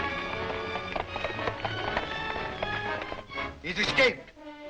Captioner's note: hooves clopping